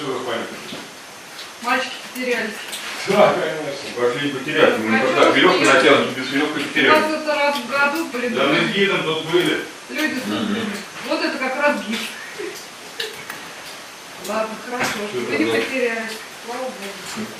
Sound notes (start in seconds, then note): 5.0 sarcasm